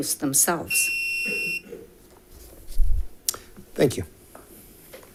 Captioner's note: timer beeping